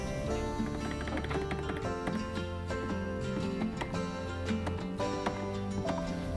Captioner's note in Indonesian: suara keyboard